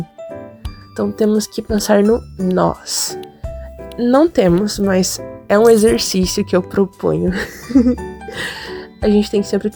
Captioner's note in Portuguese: risos